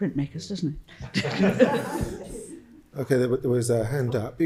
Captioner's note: all laughing